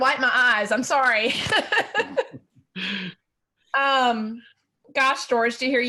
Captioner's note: laughing lightly